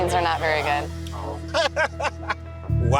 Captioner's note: laughter